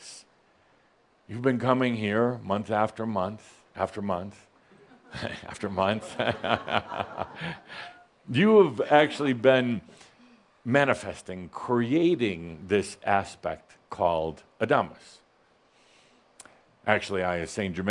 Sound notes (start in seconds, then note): 6.0 Adamus chuckles